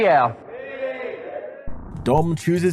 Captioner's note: crowd Shouting out variations on “me!”